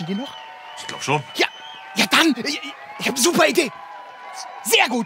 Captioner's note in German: Ferner Jubel